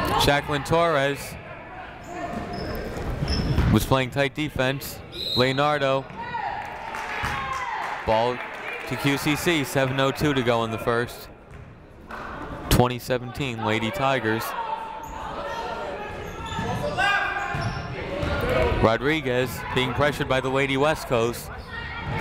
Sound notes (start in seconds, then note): 5.1 whistle tweeting; 6.2 people shouting in the crowd; 15.1 people shouting in the crowd